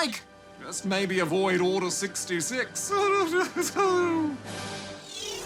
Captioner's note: laughs